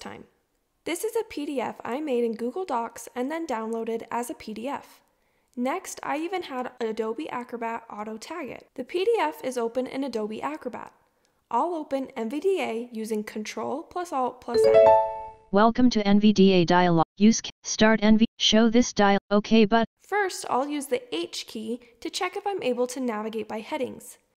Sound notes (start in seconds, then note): 14.5 NVDA trill sound